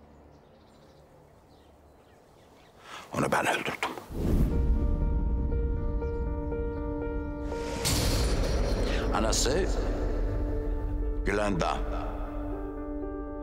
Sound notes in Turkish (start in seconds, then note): none